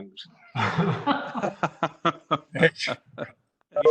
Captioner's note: laughs